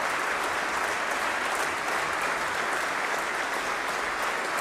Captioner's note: applause